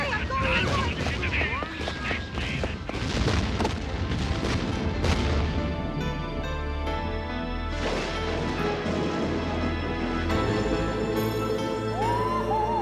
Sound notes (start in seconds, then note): 0.0 chattering; 2.8 explosions; 10.3 all humming